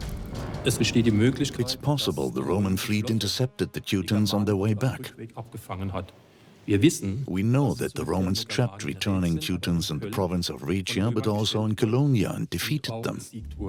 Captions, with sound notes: (in German) (dubbed in English) Maybe the Roman fleet intercepted the Teutons on their return. We know the Romans trapped returning Teutons in Raetia, but also in Colonia, and defeated them.